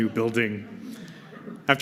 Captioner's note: laughter